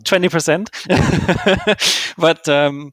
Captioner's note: laughs